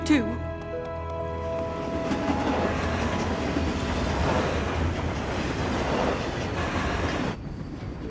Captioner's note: rattling train wheels